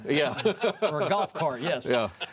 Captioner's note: panel laughs